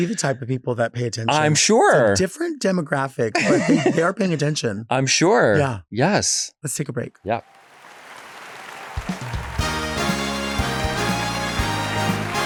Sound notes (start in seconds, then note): 7.5 audience clapping; 8.9 lively music